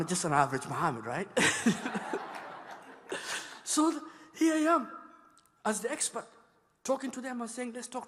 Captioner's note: laughter